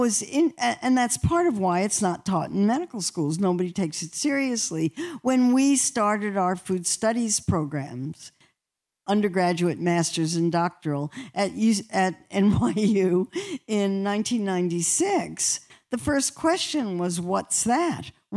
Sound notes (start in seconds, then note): 12.4 laughter